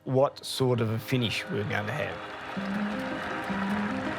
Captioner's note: crowd cheering and applauding; upbeat music playing